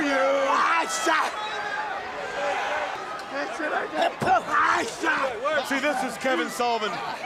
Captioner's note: crowd chatter